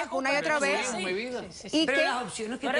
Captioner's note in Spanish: los demás discuten